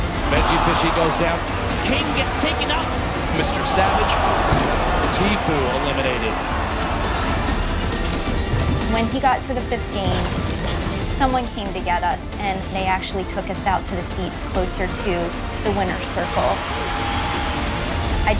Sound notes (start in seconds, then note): 4.4 slamming desk